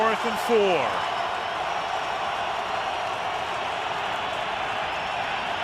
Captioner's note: cheering